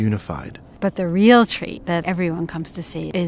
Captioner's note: voiceover